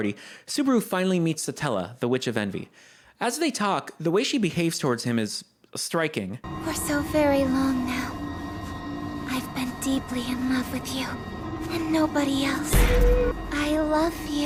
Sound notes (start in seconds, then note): 12.6 Spooky RBD noises